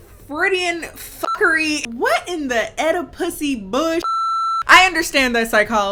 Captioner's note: beep; beep